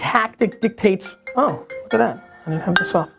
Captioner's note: phone rings